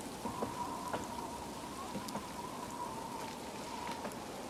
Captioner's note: distant train chuffs